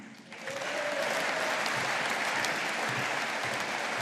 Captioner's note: audience applauding